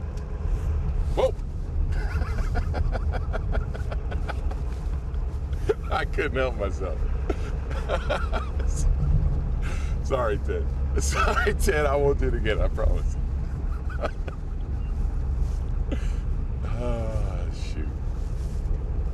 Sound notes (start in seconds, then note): 1.8 driver laughing; 7.2 laughing